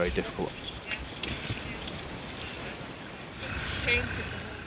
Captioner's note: water whooshing